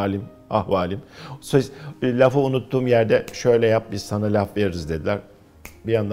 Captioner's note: snaps his fingers